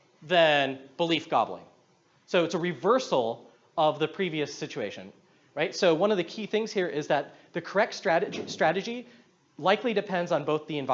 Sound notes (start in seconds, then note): none